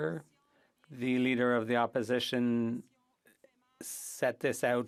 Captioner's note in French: voix de l'interprète